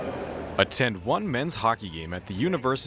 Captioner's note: voiceover